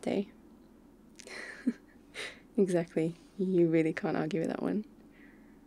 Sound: laughs

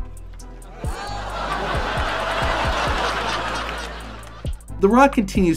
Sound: audience laughing

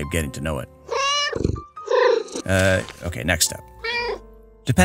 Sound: meow

